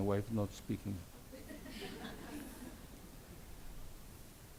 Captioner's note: audience laughs